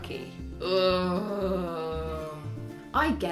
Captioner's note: groan of anguish